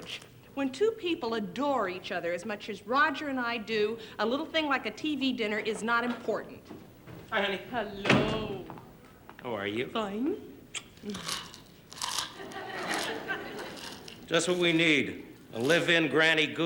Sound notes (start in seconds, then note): 10.8 crunches chips loudly